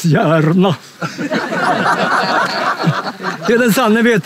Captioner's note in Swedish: skratt